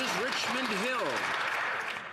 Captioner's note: some Applause